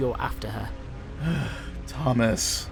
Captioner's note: frustrated sigh